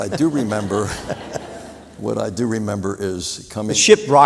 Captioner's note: laughter